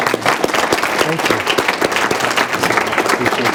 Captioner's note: applause